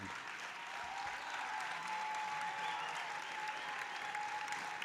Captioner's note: audience applauding